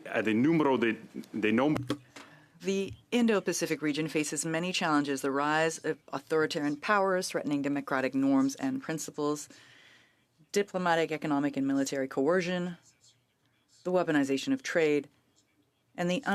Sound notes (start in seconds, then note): 4.6 speaking French